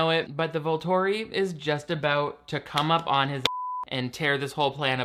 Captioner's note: beep